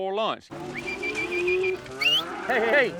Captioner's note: whistling, mooing